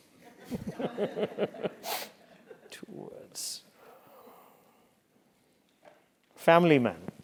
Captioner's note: laugh